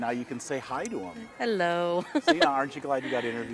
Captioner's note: chuckling